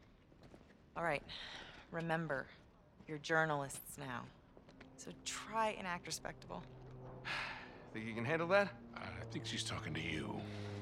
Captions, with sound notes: Alright, remember... ...you’re journalists now... ...so TRY and act respectable. (sigh) Think you can handle that? Uh, I think she’s talkin’ to you.